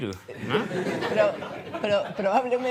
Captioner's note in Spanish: Risas